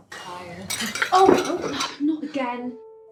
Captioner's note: plates crashing